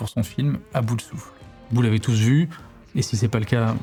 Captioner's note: breathless